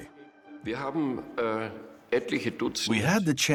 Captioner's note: speaking German